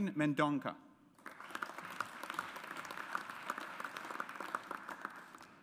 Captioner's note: audience applauds